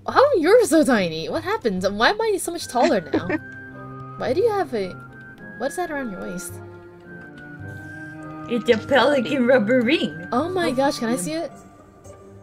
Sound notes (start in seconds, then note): 9.1 baby voice